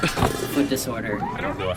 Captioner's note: a metal bowl clatters